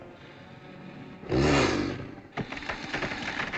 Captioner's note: dinosaur snorts